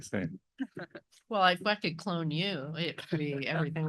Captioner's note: laugh